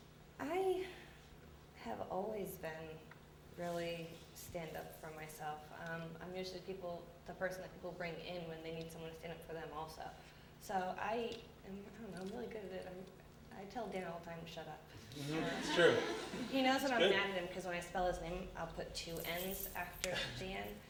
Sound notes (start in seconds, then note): 15.2 laughter